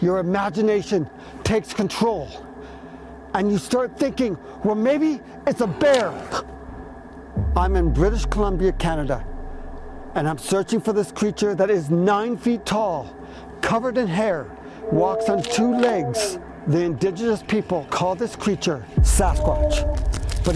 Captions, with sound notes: your imagination takes control and you start thinking, "well maybe it's a bear!" (Gasps) I'm in British Columbia, Canada and I'm searching for this creature that is nine feet tall, covered in hair, walks on two legs. The indigenous people call this creature Sasquatch,